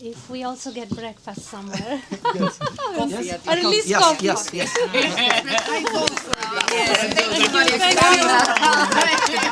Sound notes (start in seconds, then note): 4.5 thunderous applause